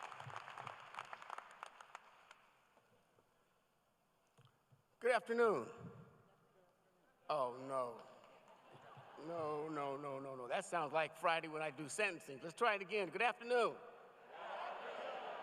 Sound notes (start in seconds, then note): 0.0 applause